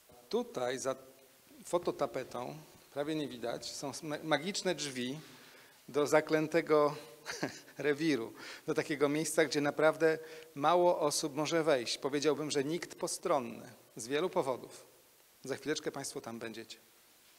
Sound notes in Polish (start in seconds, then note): 7.2 lekki śmiech